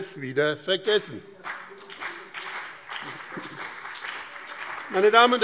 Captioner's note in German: Beifall BÜNDNIS 90/DIE GRÜNEN und CDU